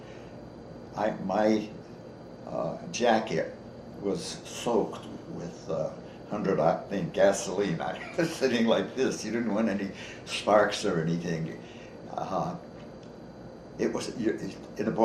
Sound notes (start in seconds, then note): 7.9 chuckles